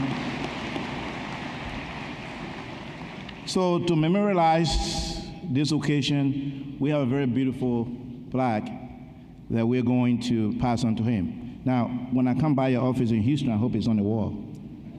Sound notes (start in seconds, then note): 0.0 applause; 4.6 cheering